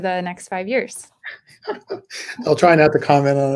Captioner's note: laughter